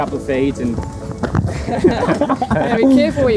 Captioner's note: everybody laughs